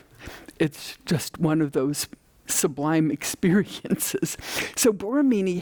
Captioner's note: none